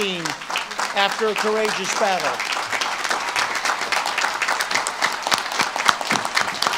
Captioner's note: audience claps and cheers